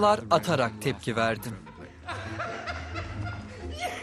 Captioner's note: laughing